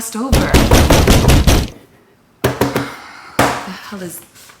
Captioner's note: door pounding